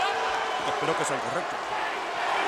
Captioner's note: applause